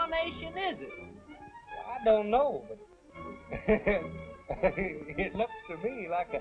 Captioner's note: laughing